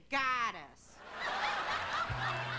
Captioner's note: laughter